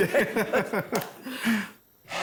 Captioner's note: laughs